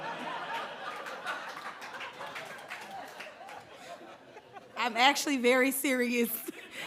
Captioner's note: laughter